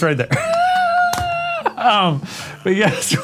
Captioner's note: laugh